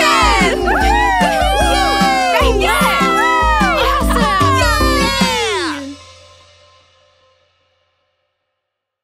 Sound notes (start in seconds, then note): 0.0 cheering